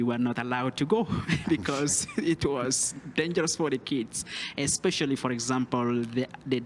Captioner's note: laugh